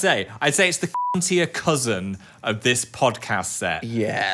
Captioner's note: beep